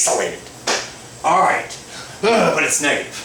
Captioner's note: grunts